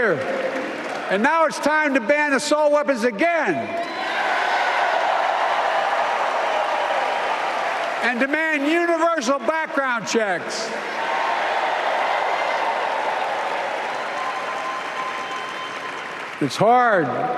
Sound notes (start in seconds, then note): 4.1 applause